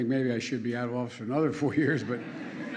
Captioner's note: laughter